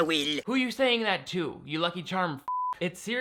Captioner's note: beep